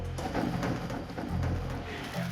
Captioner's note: machine clanking